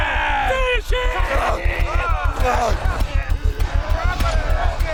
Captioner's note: all cheering